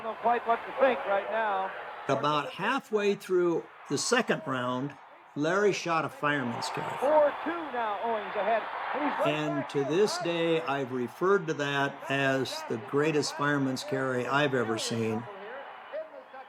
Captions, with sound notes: [sound of old broadcast] - About halfway through the 2nd round, Larry shot a fireman's carry. And to this day I've referred to that... as the greatest fireman's carry I've ever seen.